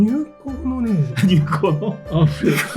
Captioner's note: laughs